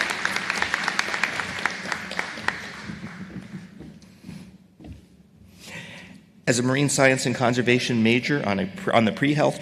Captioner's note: applause